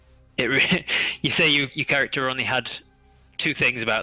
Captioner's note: laughs